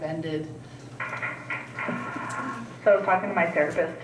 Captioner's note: distant clattering